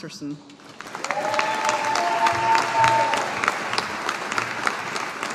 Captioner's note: audience applauding